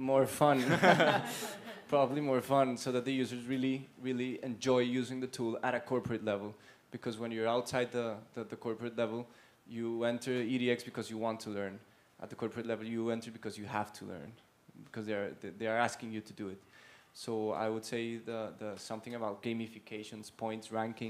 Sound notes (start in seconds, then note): 0.6 laugh